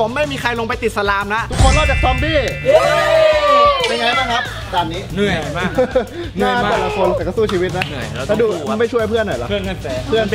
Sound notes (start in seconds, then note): 5.2 chuckles